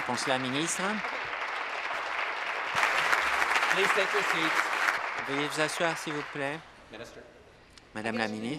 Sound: applause

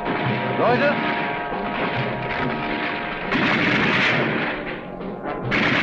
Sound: speaking in a foreign language

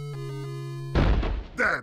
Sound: bang

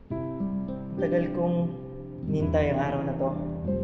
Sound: speaking Filipino

